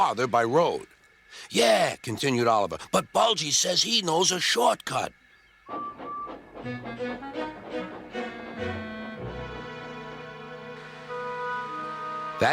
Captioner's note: Oliver whistles and leaves station